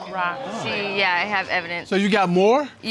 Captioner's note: audience exclaims